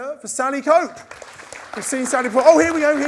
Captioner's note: crowd claps